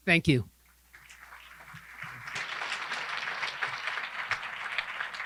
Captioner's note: audience applause